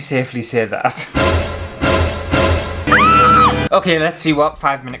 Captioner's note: screaming!!